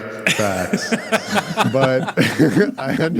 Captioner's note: laughing